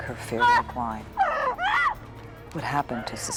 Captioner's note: woman screaming